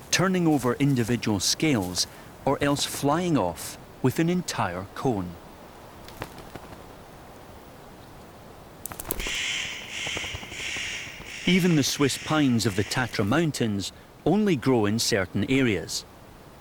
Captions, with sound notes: turning over individual scales or else flying off with an entire cone. [bird calls] Even the Swiss pines of the Tatra Mountains only grow in certain areas,